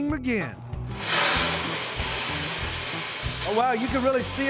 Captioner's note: hazelnuts rattling